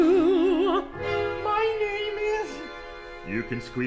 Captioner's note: client in falsetto